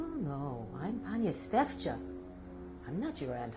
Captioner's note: non-english